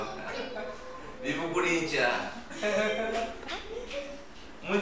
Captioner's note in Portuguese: risos